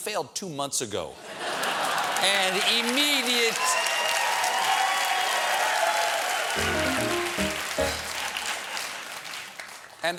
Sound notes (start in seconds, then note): 1.7 cheers and applause; 2.6 piano riff